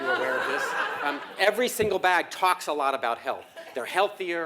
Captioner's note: laugh